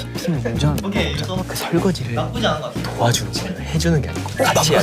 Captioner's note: whispering